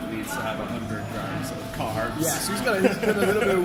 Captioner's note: laughs